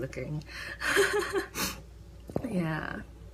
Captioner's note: laughs